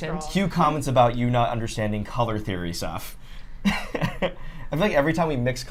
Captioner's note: laughs